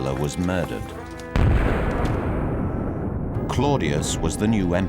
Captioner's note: sculpture banging